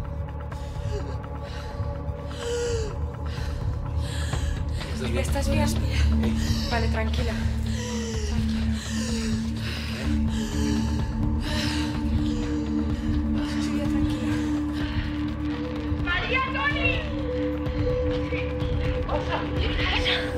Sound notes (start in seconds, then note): 0.4 wheezing; 7.6 wheezing